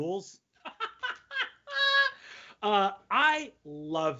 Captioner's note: laughing loudly